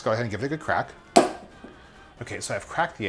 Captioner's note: egg cracks